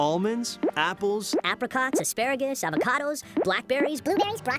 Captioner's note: voice speeding up